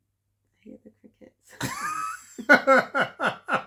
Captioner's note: laughter